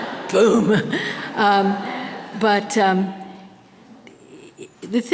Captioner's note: audience laughter